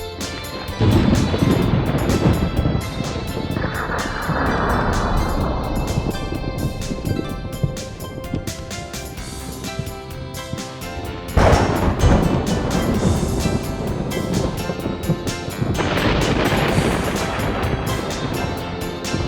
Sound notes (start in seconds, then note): 1.5 רעם; 11.4 רעם